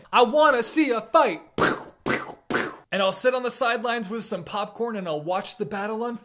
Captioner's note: pew